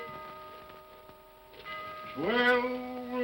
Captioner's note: clock chimes